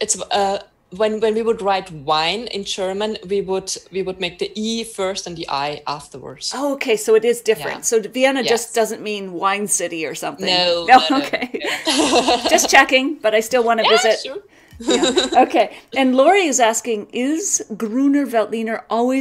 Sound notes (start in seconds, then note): 10.4 laughs